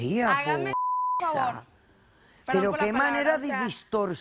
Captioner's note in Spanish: Bip